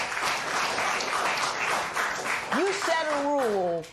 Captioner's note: applause